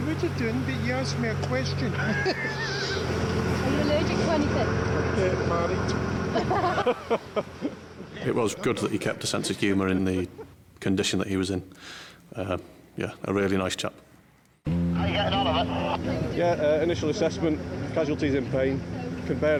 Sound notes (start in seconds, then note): 1.9 everyone laughs; 6.3 rescuers laugh